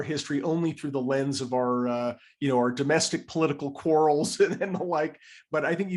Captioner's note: laugh